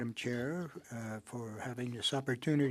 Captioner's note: speaking French